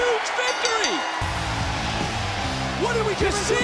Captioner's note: bell rings